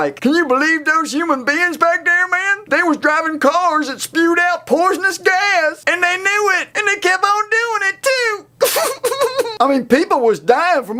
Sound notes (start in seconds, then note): 8.6 laughs